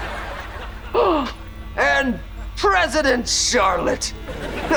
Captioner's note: gasping; chuckles